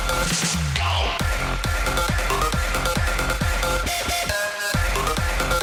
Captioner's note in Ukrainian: оплески